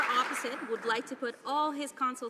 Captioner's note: some Applause